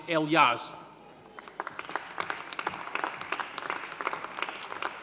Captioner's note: audience applauding